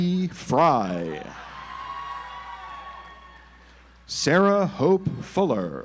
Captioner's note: audience applauds